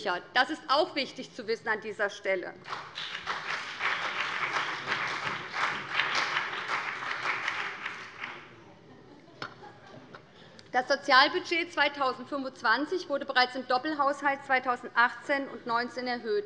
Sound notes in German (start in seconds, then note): 2.6 Beifall BÜNDNIS 90/DIE GRÜNEN und CDU